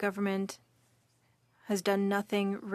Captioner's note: speaking French